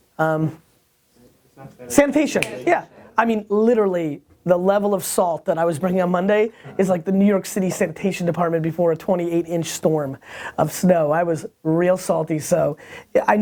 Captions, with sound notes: - [Voiceover] Sanitation. - Sanitation, yeah. Literally, the level of salt that I was bringing on Monday is like the New York city sanitation department before a 28-inch storm of snow. I was real salty, so.